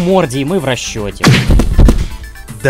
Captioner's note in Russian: звук Соника, получившего по морде